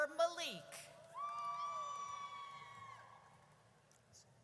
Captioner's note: audience cheers